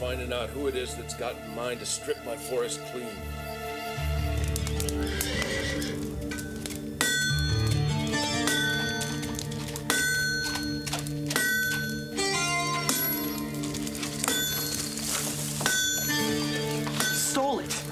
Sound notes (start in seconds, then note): 3.9 ominous music; 4.0 horse neighing; 6.7 tamping metal